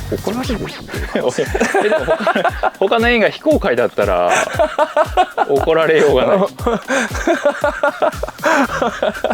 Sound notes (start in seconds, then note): 6.2 laughs